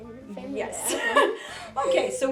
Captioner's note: laughs